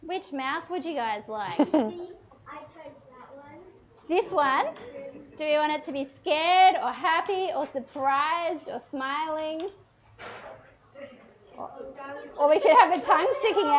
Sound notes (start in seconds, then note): 1.5 chuckles